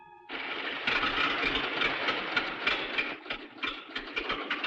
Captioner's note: engine rattling